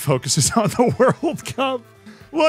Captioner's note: laughs